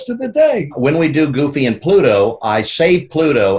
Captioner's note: in normal voice